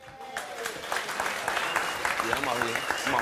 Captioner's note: applause